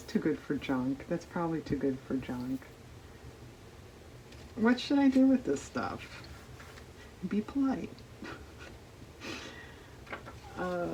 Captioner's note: laughs